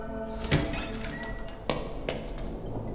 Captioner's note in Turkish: Kapı açılma sesi